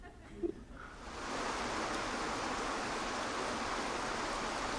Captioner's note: Eckhart giggles; water splashing